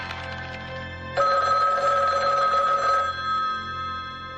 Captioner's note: telephone rings